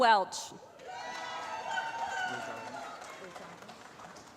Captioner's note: applause